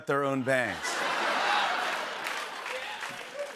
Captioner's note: laughter